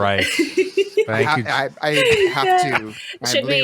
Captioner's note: laughter